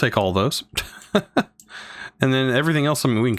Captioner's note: laughs